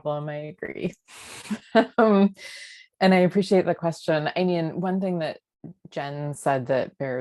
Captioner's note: laughter